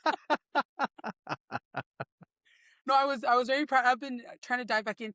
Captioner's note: laughs